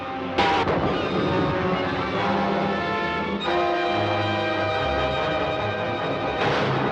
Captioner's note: dramatic music; booming